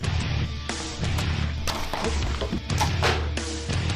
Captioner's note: gun shots; intense music continues